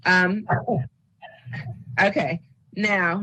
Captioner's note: laughs